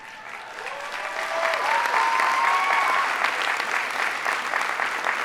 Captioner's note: audience applauding